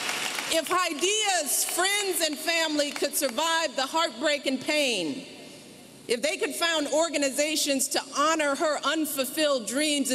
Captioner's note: applause